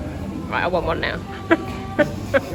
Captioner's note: laughs